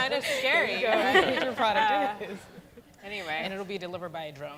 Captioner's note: laughter